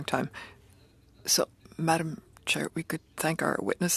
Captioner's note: speaking French